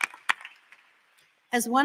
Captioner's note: applause